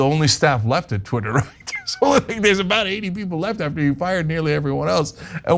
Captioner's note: laugh